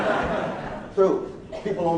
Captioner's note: laughing